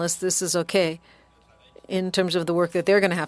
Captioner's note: speaking French